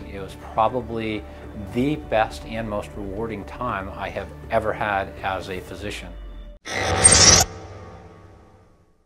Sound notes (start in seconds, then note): 6.6 mechanical sfx